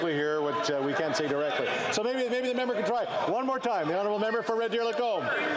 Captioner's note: yelling